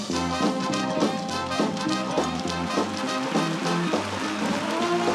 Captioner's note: applause